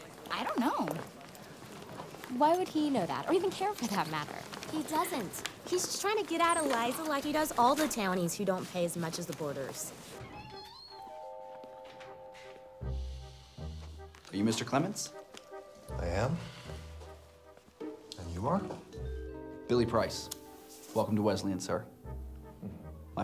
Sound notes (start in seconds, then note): 10.1 door creaks; 11.8 curious music